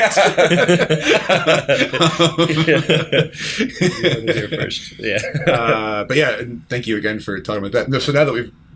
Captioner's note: laughter